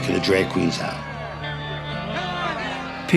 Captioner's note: shouting continues